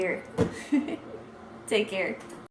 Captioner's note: giggles